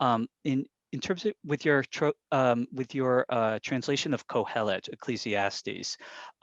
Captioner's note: speaks in Hebrew